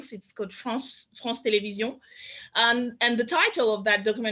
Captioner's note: speaks in French